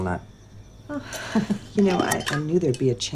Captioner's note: scoffs